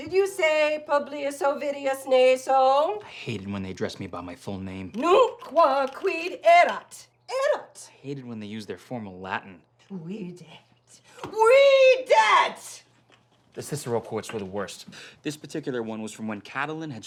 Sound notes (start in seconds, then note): 5.0 angrily speaking Latin; 9.9 angrily speaking Latin